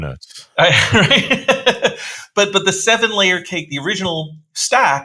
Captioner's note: laughs